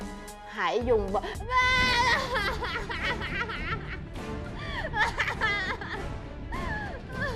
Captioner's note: yelling